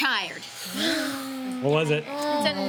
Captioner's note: sighing